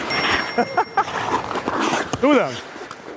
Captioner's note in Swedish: Skratt